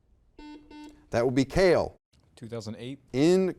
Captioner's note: buzzer beeping